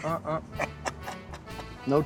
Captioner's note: laughing